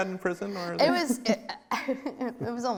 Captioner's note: stammering